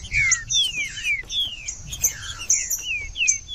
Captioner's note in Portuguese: trinca ferro cantando